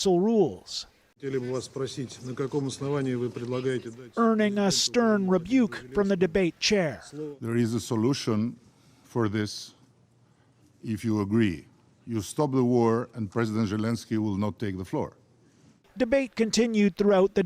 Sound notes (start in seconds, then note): 3.9 speaking alternate language